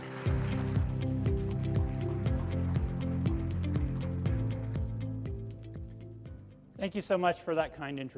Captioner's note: applause